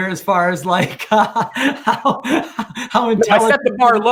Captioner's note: murmurs